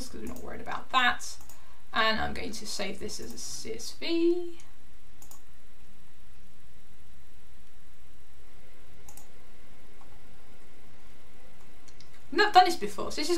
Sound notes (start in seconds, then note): 5.2 mouse clicking